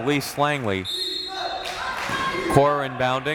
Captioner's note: whistle tweeting